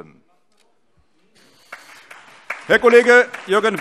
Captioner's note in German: Beifall CDU, BÜNDNIS 90/DIE GRÜNEN, SPD, DIE LINKE und auf der Regierungsbank